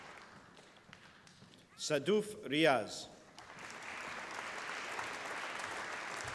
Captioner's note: applause